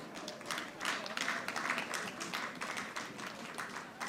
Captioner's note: audience applauding